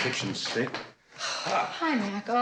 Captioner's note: sighs